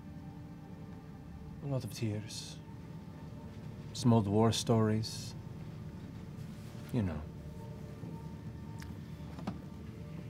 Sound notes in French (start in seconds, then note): none